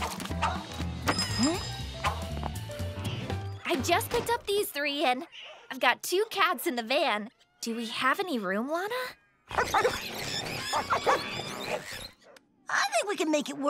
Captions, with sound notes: [dinging] Hmm. I just picked up these three, and I've got two cats in the van! Do we have any room, Lana? [barking, squawking] I think we can make it work.